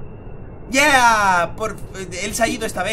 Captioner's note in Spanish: Emocionado